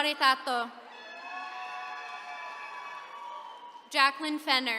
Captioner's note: attendees cheering